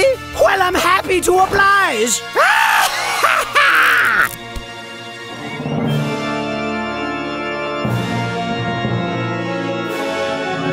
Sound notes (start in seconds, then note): 2.9 evil Laugh